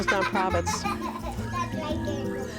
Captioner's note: kid laughing in background